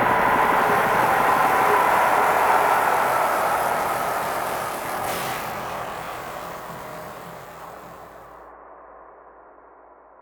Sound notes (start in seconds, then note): 2.3 helicopter Ａｓｃｅｎｄｓ